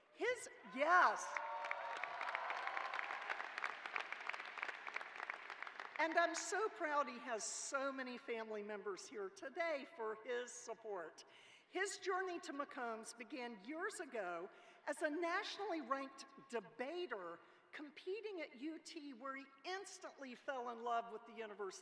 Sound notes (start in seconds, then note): 4.6 cheers and applause